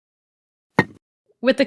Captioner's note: thunk